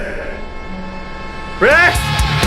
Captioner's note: horn honking